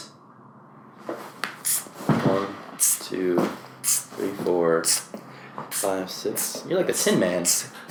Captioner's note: makes spraying noises